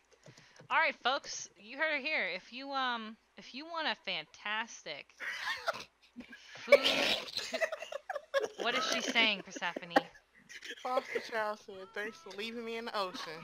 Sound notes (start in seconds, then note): 7.2 laughter ensues; 13.2 everyone laughs